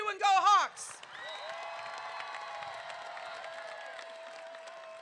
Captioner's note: crowd cheering